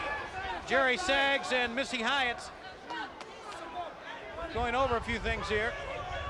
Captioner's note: crowd chatter